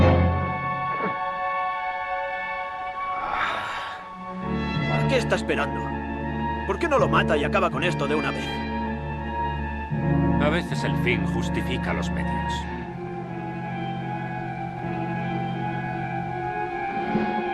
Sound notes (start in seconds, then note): 3.1 Ramirez sighs; 13.5 suspenseful orchestral music